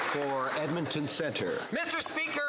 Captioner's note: some Applause